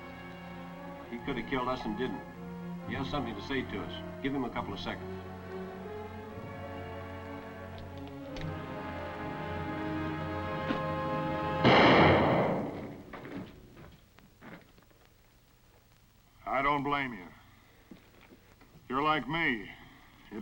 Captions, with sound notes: Now, he could've killed us, and didn't. He has something to say to us. Give him a couple of seconds. (gun clunks) (gun fires) - I don't blame you. You're like me.